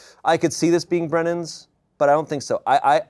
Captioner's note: none